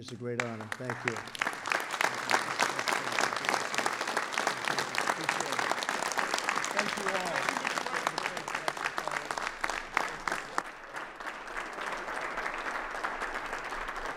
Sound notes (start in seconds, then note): 1.4 applause